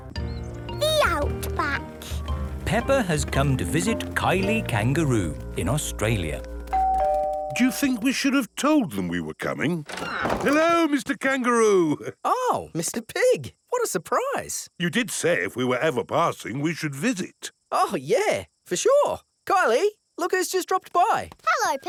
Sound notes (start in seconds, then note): 6.8 doorbell rings